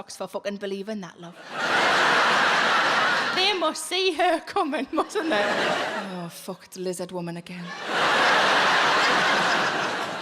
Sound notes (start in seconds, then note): 1.4 audience laughing; 7.6 audience laughing